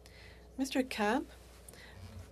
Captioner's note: speaking French